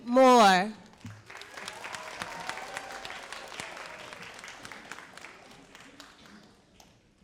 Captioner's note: all applauding and cheering